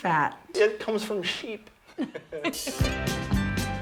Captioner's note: both chuckle